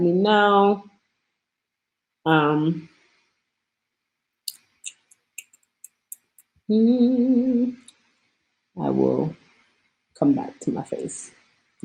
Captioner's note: humming and mouth noises